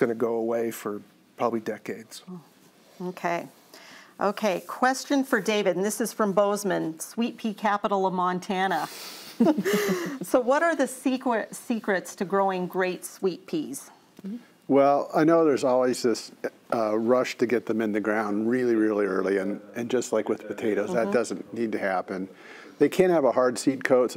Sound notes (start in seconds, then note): 9.5 all laugh